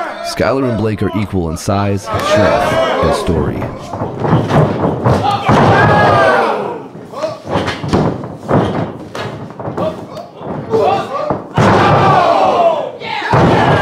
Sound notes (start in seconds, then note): 3.7 audience cheering